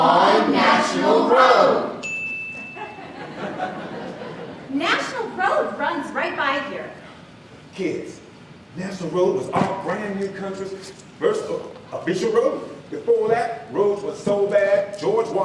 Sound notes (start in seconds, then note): 2.0 bell dings